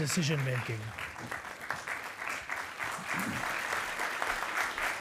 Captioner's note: attendees applauding